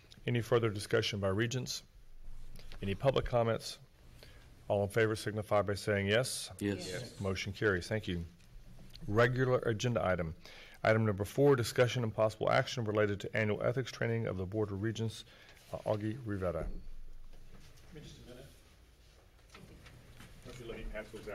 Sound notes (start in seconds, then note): 6.6 multiple Voices